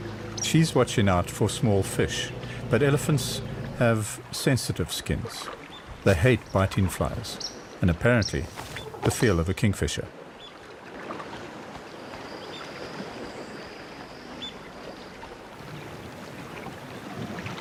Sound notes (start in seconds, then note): 8.2 animals calling